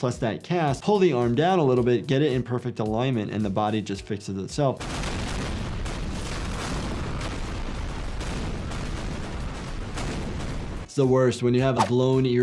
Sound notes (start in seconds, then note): 4.8 guns popping